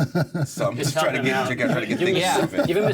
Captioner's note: laughter